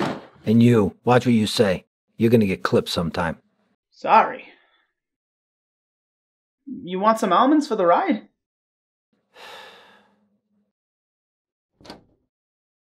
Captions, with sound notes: And you. Watch what you say. You're gonna get clipped sometime. - Sorry. You want some almonds for the ride? [SIGHS] [DOOR OPENS]